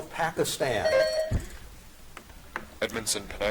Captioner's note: buzzer dings